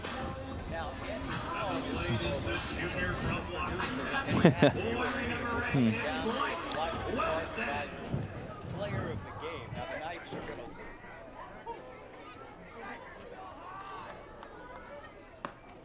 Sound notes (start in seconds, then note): 5.7 chatter